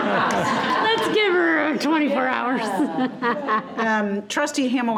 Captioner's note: all laughing; laughing